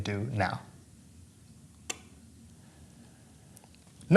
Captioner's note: clicks off